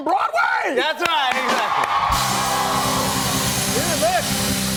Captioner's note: cheers and applause